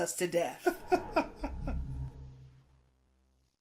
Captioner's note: laughing